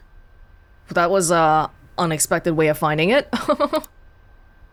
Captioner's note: chuckles